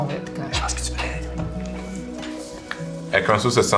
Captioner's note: whispers